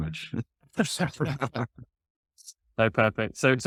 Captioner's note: laughter